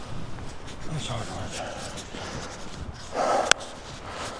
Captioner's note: panting